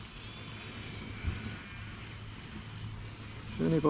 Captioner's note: sheep calling